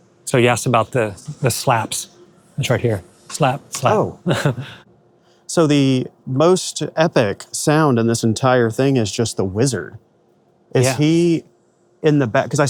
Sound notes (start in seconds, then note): 3.4 chuckles